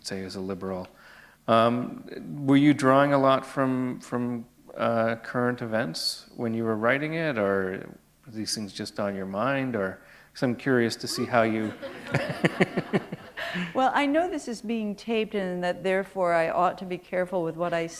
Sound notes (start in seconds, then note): 11.1 laughter